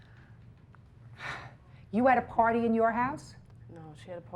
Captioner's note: sighs